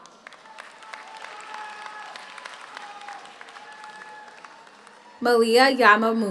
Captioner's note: audience cheers; audience applauds